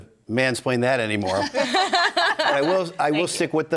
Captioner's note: panelists laughing